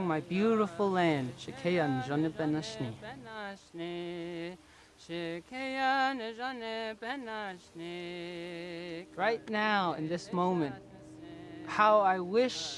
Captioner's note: non-english